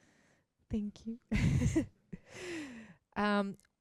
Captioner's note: laughs